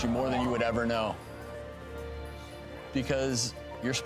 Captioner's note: audience gasps